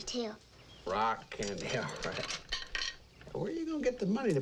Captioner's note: candy clatters